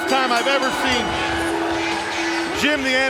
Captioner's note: bell ringing